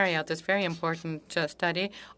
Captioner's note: speaking French